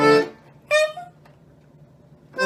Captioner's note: accordion music; honk